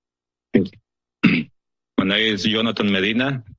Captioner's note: coughs